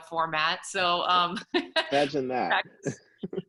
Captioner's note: laughs